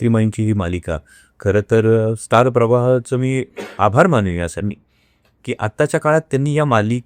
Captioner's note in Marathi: घसा साफ करणे